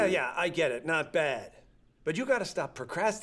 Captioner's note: none